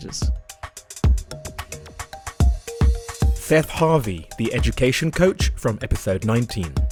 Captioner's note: voiceover